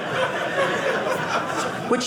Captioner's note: audience laughing